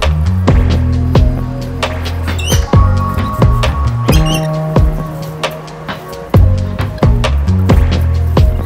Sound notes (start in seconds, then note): 2.3 birds chirping